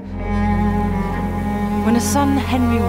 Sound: sand pours

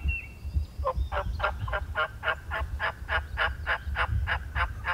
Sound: turkey gobbles

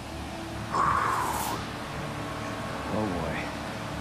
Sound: exhaling

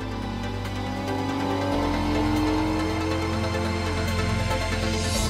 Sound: engine roaring

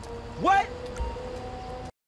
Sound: interface chime

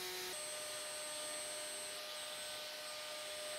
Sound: saw zings

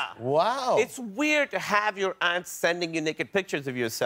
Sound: none

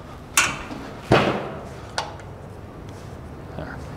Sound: gas knob clicking

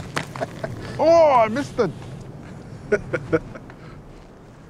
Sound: laughing; laughing

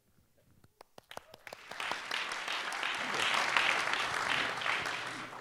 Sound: applause

